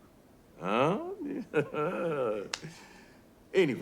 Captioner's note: laughs